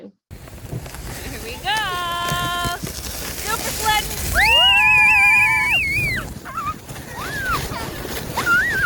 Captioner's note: everyone is screaming